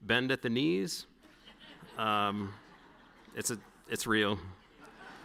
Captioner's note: audience laughing